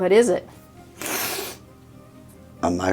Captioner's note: sniffs